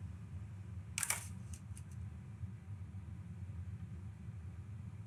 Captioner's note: camera shutters